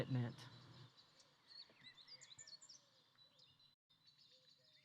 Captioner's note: birds tweeting